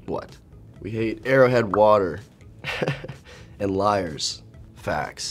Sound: laughs

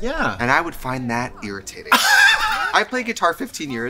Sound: laughs

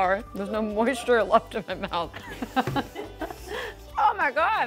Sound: laughs

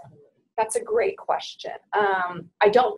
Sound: voiceover

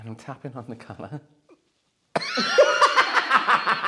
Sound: trying not to laugh

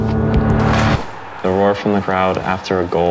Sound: ball kicked repeatedly; crowd roars

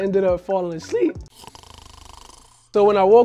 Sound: snoring

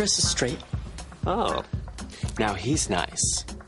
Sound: gayly surprised

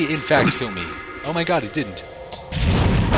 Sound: gunshots

